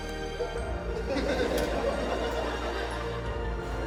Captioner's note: majestic music; laughter